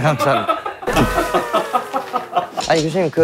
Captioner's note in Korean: 복식 웃음